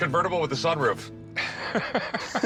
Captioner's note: chuckling